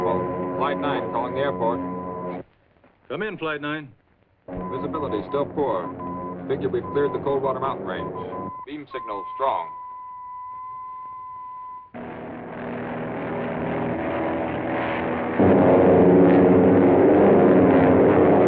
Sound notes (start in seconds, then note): 9.6 beeping